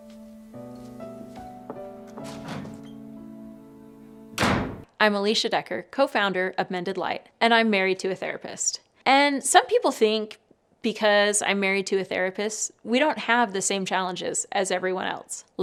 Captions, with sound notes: (somber music) (door slamming) - I'm Alicia Decker, co-founder of Mended Light and I'm married to a therapist. And some people think because I'm married to a therapist, we don't have the same challenges as everyone else,